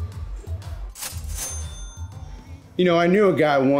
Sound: cash register dings

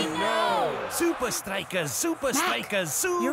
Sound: chanting

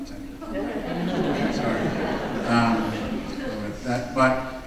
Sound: audience laughing

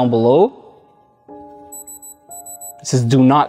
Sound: device beeps

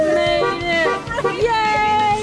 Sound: toots

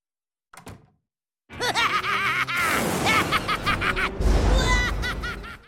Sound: evil laughter

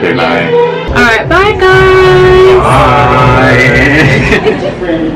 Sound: laughter

